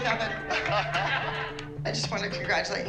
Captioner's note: laughter